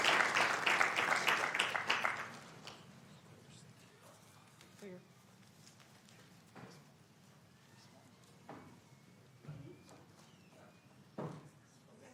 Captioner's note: applauding